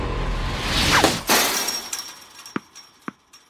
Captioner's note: fence rattling